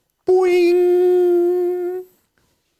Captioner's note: humming